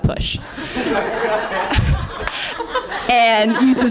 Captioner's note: laughter